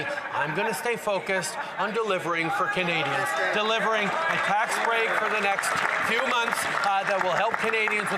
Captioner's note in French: voix de l'interprète